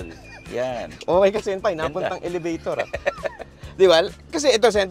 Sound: laughs

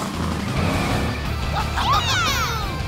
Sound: cheering

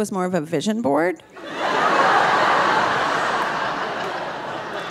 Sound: audience laughing

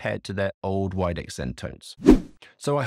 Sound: swooping transition

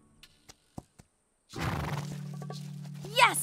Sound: snort

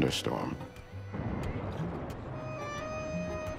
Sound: thunder rolling

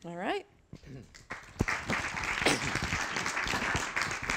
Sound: applause

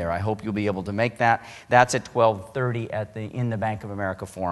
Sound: none

